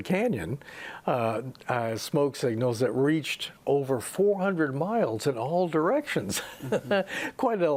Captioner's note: laughing